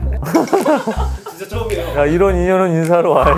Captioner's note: Nam Gil's voice coming from somewhere